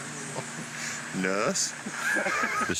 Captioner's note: laughter